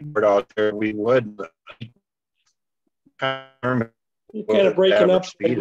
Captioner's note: distorting